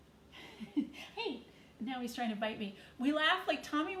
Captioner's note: chuckles